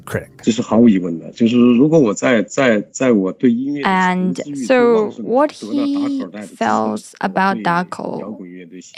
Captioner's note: speaking Mandarin Chinese